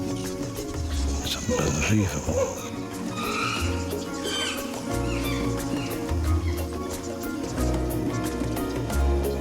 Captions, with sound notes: - It's unbelievable! (chimps screaming)